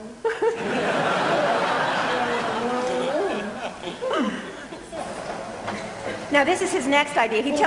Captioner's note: laughter